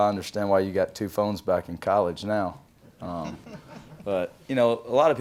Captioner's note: audience laughs